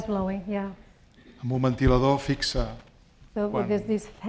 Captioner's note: speaking spanish